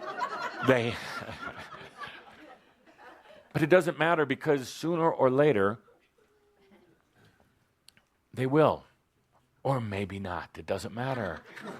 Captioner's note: laughter